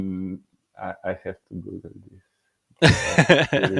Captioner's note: laughing